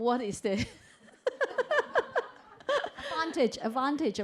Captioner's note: chuckles